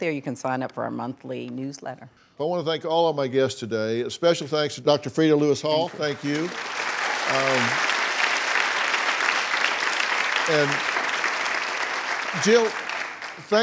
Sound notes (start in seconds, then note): 5.7 clapping